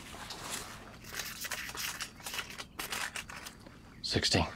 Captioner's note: bills rustling